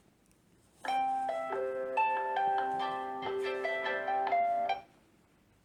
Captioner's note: phone ringing